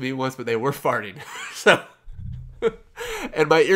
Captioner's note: laughs